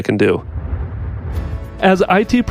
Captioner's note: whooshing